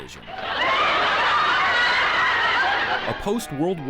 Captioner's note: laughter